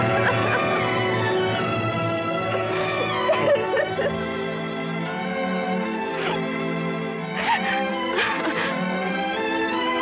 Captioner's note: crying